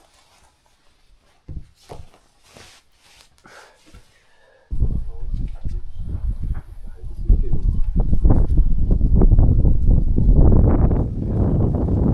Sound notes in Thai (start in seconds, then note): 2.2 ลมพัด